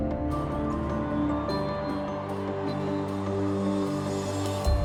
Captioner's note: crowd cheering